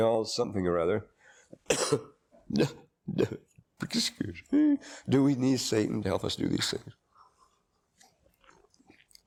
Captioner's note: coughs